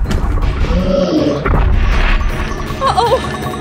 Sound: Puto Monster growling

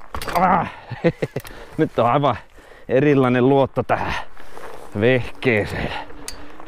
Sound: laugh

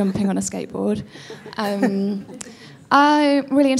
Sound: crowd chuckling

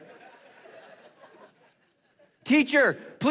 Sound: congregation laughing

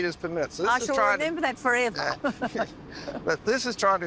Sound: laughs

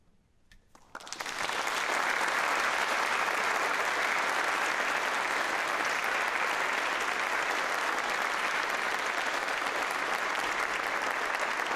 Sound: applause

